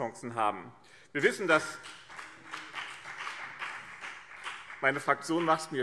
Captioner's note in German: Beifall BÜNDNIS 90/DIE GRÜNEN